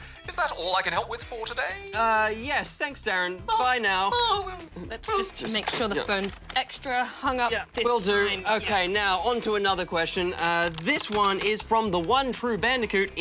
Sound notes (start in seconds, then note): 4.1 chuckles